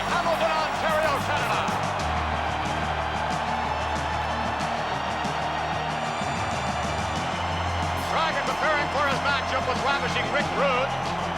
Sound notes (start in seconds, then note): 2.6 applause